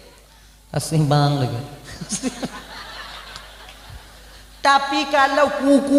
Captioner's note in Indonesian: tertawa